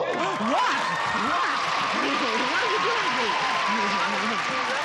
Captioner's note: applause